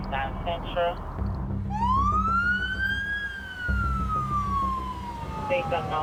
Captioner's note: sirens wailing